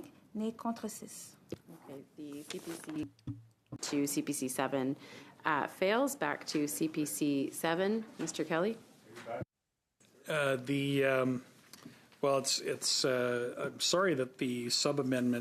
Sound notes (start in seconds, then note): 6.6 speaking French